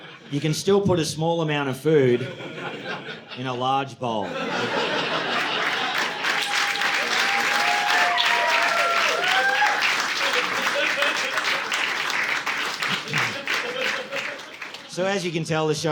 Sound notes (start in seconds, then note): 4.2 audience laughing; 6.0 audience applauding